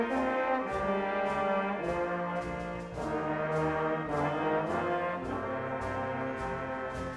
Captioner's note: none